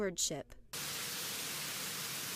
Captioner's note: milk dumping